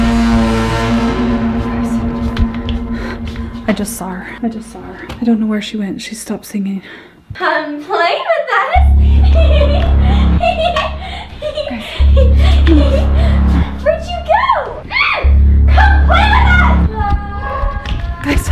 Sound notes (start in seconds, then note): 0.0 dramatic music; 9.0 laughing